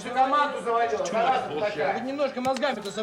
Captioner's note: reprimanding in russian